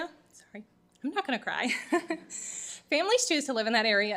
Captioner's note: chuckles